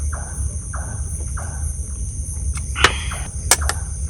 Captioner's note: cowbird sounds